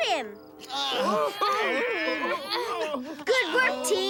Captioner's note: straining